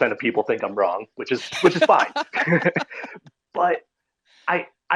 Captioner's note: laughing